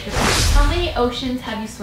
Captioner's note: rush of air